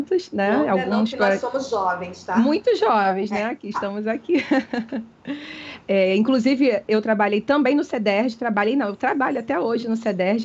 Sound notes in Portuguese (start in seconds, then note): 4.3 riso